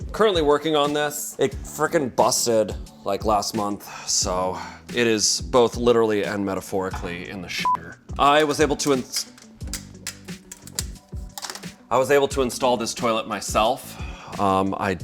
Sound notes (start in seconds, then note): 8.3 device clanging on toilet